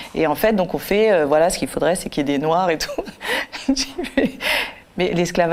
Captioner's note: laughter